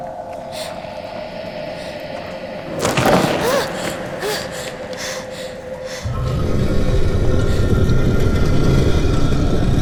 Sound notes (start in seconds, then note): 5.8 rock scraping